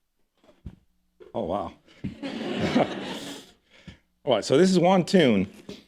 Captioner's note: laughter